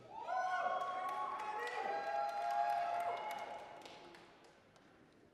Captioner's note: applause, cheering